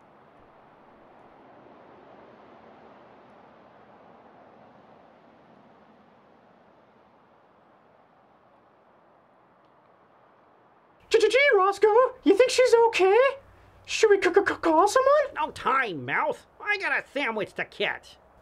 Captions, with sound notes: *stuttering* Gee, Roscoe, you think she's okay? Should we call someone? No time, mouse! I got a sandwich to catch!